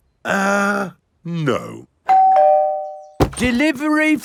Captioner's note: doorbell rings